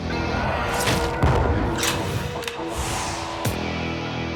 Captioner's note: theme music; gunshots